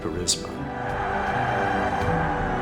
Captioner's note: crowd cheering